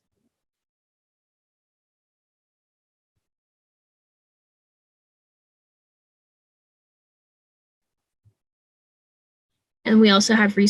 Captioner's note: silence